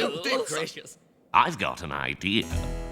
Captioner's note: murmuring